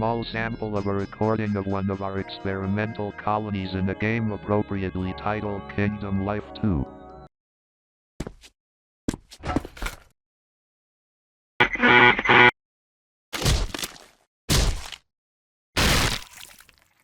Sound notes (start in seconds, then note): 11.7 sounds of computer; 13.4 sound of bone cracking